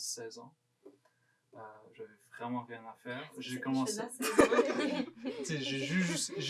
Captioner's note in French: rires